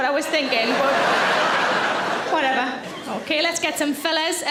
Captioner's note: audience laughs